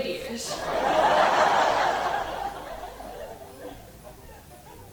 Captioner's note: audience laughing